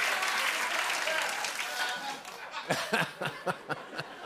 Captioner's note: laughter and applause; laughter continues